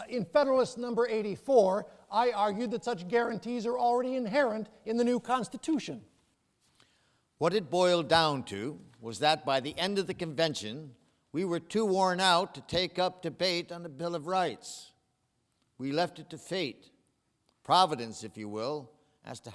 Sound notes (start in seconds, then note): none